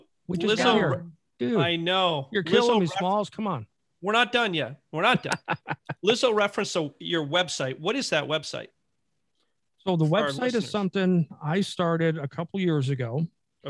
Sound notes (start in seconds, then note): 5.0 laughing